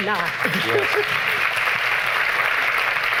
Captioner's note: applause